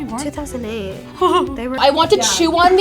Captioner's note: whimpers